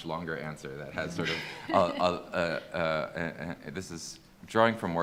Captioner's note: attendees laughing